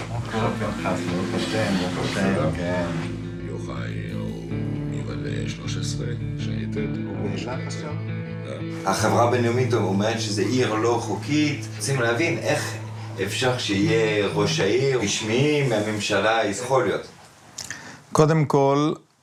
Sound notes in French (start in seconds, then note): 3.5 Hebrew spoken language